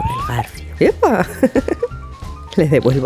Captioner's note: laughs